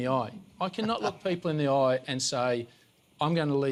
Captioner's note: laughter